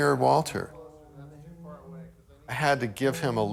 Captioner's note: humming